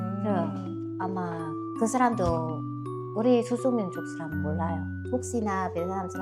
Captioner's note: Vietnamese